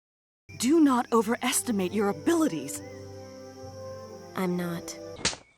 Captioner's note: slap!